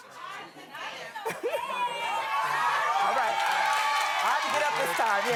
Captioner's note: cheering and applause